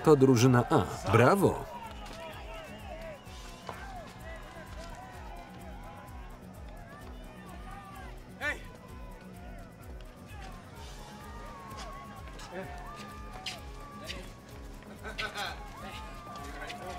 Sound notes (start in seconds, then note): 14.7 laughing